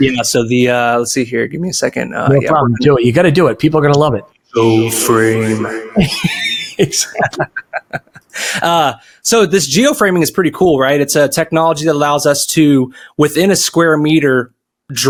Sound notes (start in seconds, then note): 5.2 distorting voice; 6.3 laughs